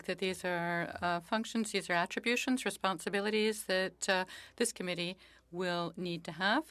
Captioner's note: speaking French